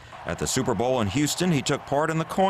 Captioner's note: applause